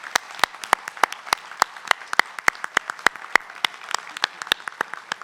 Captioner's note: applause